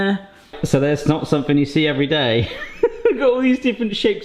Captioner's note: chuckles